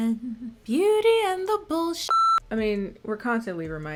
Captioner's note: beep